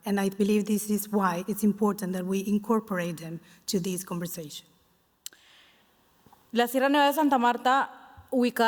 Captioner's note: speaking Spanish